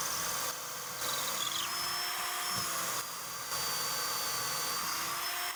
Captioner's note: drill whirring